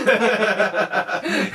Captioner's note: laughter